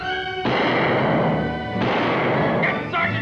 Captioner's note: dramatic orchestral music; guns fire